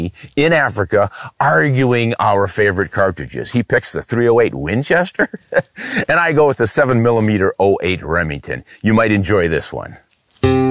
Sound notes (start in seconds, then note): 5.0 laughs; 10.4 country music